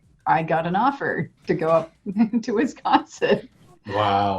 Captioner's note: laughs